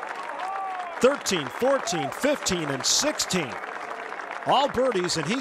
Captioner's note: cheers and applause